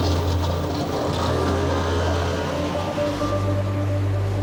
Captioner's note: boat droning; intense music